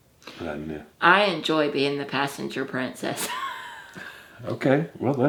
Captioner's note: laughs